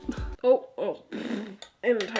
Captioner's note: spitting